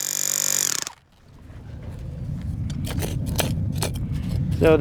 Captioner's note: power tool noise